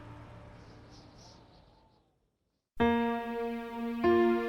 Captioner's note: wind blows; gentle music